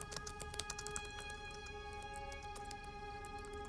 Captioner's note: typing continues